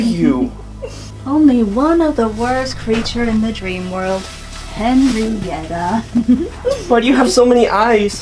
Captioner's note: giggles